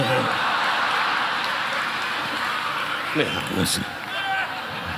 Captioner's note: audience laughing; audience applauding